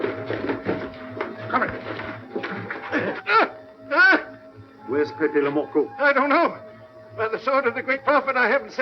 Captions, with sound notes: -Come here! -[screaming] -Where's Pepe le Moko? -I don't know! By the sword of the great prophet,